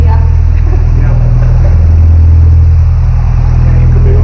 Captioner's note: chuckling